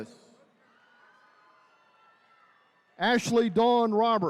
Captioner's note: attendees cheering